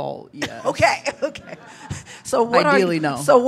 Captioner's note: laughs